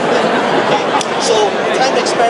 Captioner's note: crowd laughs